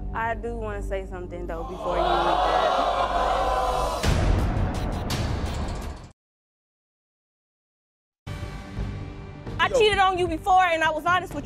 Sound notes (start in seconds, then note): 3.2 audience oohing; 8.3 dramatic music